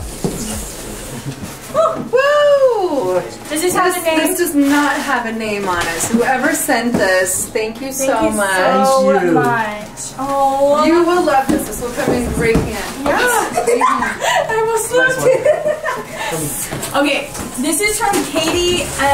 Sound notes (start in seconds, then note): 13.3 laughs